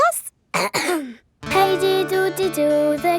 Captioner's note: clears throat